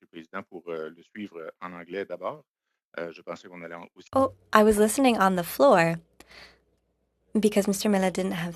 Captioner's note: speaking French